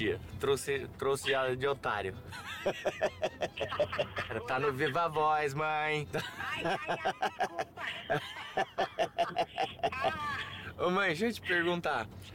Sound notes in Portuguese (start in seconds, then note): 2.3 risos; 2.3 mãe ri; 6.1 risos